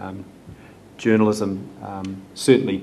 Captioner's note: none